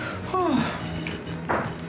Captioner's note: sigh of relief